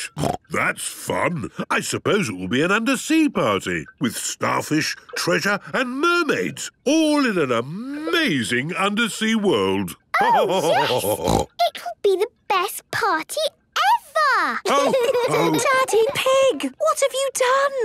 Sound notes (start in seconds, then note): 9.7 laughter and snorting; 14.6 laughter